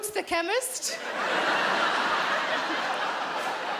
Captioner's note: laughing